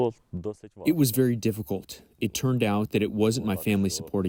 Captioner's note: through translator